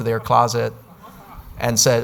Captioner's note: audience laughs